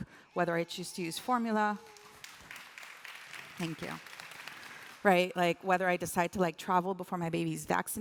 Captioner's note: applause